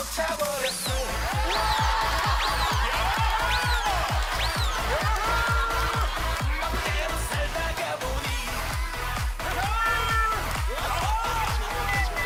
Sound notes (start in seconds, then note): 2.3 laughter; 9.5 laughter